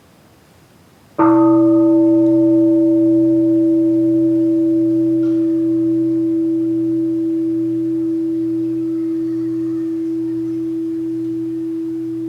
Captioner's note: the bell is invited to sound